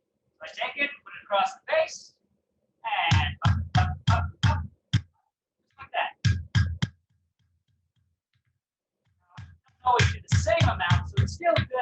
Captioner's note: hammering